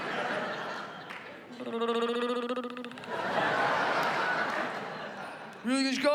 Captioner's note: trilling